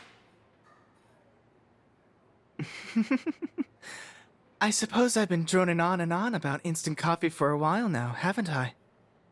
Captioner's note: chuckle softly